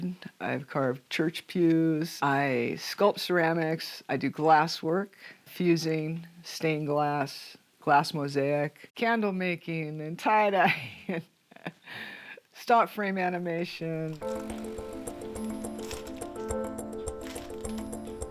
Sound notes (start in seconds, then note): 11.4 laughs; 14.1 upbeat music